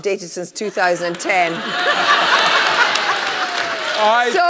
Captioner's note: laughter